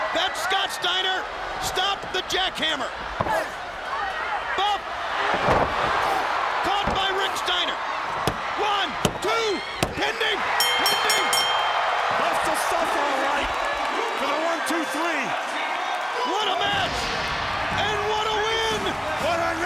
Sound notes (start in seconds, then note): 5.6 crowd roaring; 10.5 bell ringing